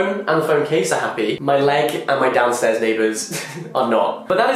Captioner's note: laughs